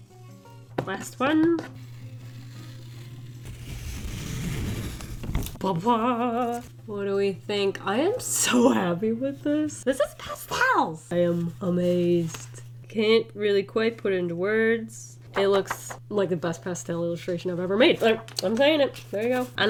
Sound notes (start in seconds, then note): 1.6 tape peeling